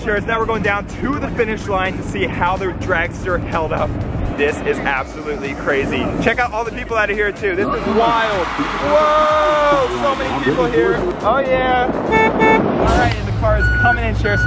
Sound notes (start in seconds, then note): 7.6 crowd cheering; 12.0 horn honking